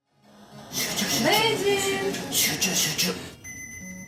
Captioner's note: sing-songy